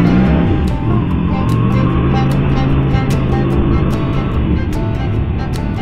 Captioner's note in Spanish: Motor de Motocicleta